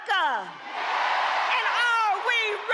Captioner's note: cheering; applause